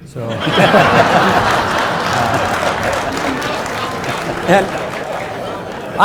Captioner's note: audience laughs; audience applauding